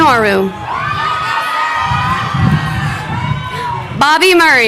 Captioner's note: crowd cheering